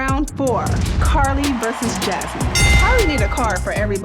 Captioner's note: bell dings